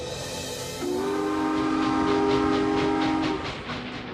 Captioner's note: train horn blowing